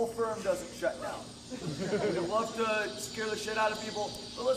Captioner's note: laughs